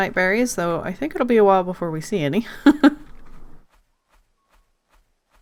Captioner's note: laughs